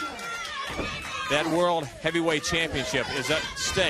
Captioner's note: crowd chatter